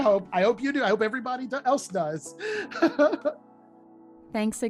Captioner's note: laughter